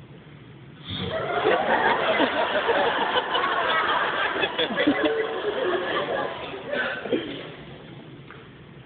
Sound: laughter

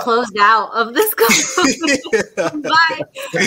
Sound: laughing

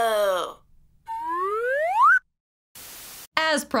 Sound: slide whistle sound

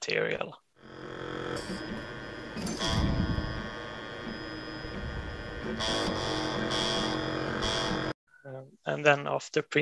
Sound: machine hissing

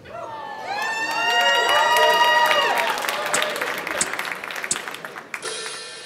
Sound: audience Applause

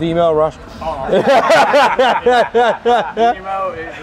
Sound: all laugh

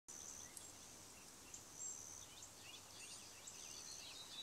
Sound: birds chirping

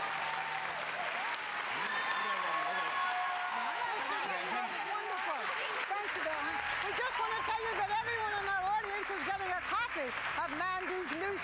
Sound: applause

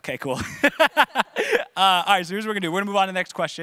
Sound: laughing

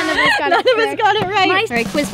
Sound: laughs

